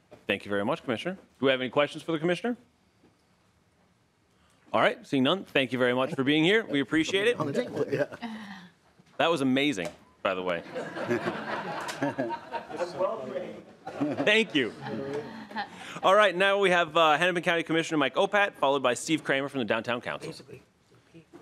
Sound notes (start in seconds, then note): 17.3 laughing